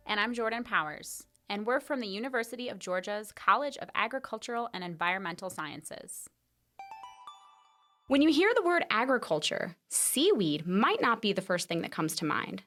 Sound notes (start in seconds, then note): 6.8 chime